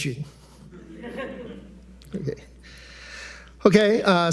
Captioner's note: attendees chuckling